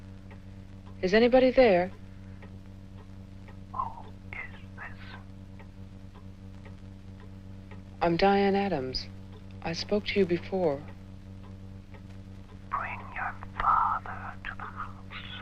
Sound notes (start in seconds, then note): 3.6 killer, softly